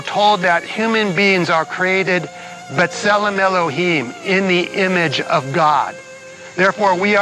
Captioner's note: speaks Hebrew